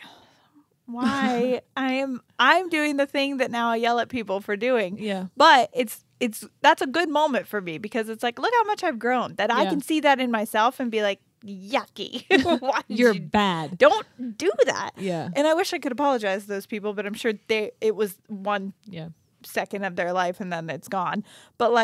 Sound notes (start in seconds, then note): 12.3 chuckling